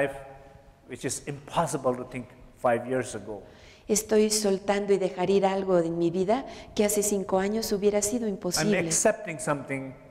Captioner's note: Spanish